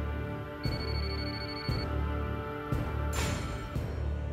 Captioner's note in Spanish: suena el celular